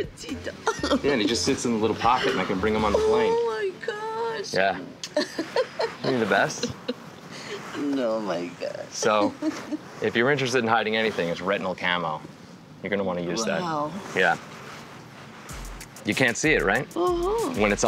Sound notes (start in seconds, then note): 4.9 smooches